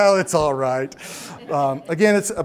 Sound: audience laughs

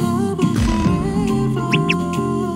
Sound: thud Thump Bump

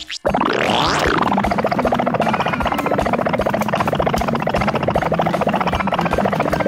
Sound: car gurgling; upbeat music

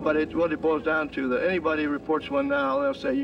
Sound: man chattering

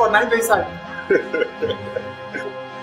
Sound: laughs

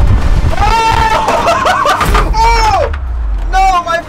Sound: laughs

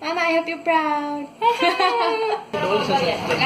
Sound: laughs

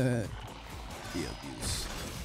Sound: laughs

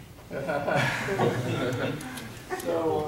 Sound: audience laughing

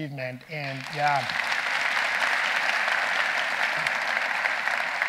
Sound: audience applauding

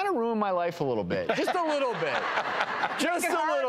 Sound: laughing

